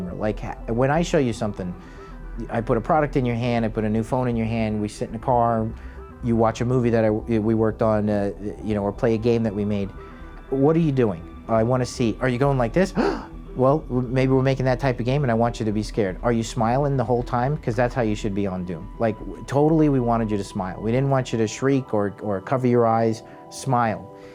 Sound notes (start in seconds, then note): 12.9 gasps